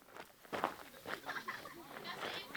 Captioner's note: laughing